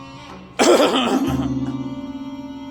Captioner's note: cough